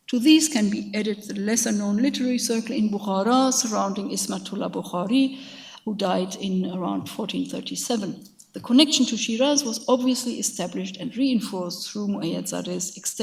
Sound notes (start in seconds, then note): 2.9 speaks in a foreign language